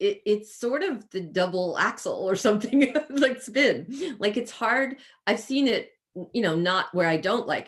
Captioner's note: chuckles